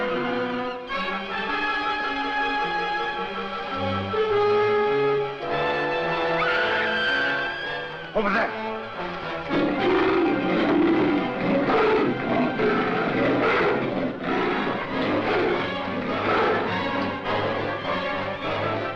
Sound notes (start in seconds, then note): 6.2 Dina screaming; 9.4 leopard roaring; 12.9 gorilla grunting; 16.1 intense music